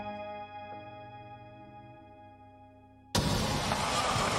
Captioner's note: glass shattering